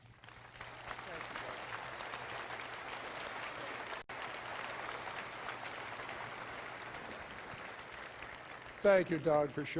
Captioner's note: applause